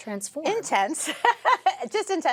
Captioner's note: laughs